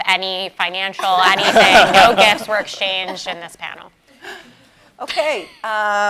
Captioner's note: laugh